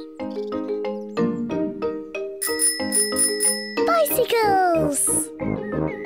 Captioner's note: bicycle bell ringing